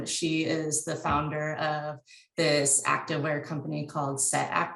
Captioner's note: none